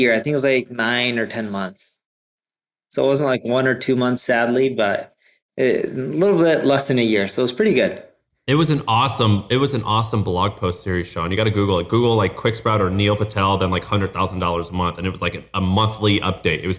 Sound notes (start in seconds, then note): none